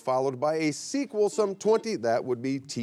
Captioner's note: buzzer beeps